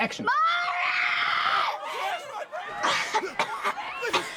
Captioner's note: children screaming